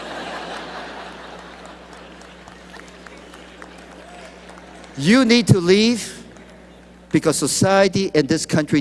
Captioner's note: laughter